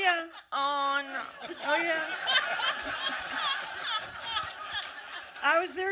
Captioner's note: audience laughter